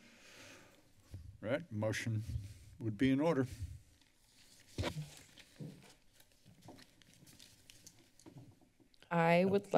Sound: paper rustling

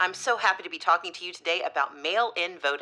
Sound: none

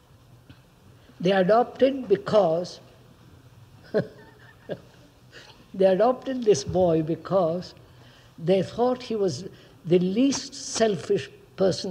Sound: laughs

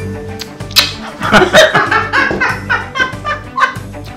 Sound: laughter and cackling

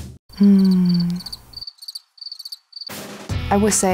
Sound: crickets chirping

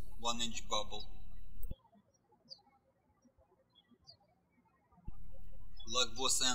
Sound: birds chirping

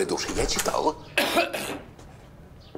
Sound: clears throat

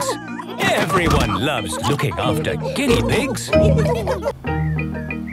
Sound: laughter

